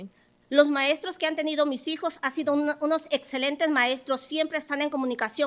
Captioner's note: speaking Spanish